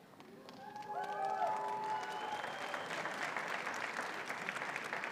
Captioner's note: audience cheers and applauds